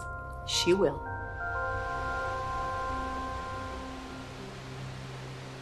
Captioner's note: water rushes